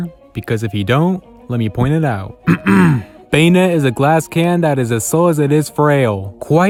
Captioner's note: clears Throat